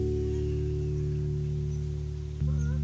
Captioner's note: geese honk